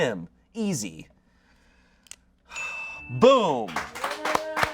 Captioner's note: bell dings; audience applauding